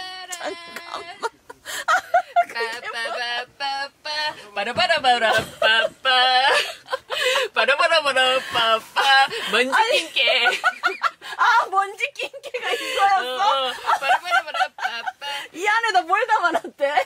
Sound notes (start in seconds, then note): 8.9 they're laughing in the back